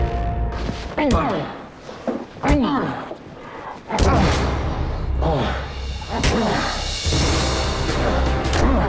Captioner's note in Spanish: Golpes